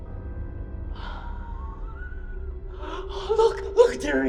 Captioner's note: Tippet laughs